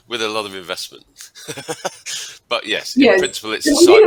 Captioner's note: laughs